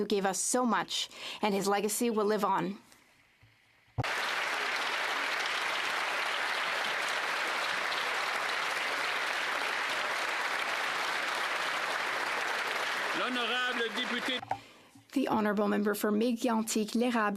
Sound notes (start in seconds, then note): 10.5 applause